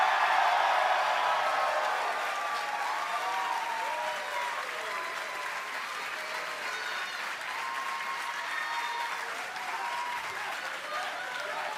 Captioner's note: cheers and applause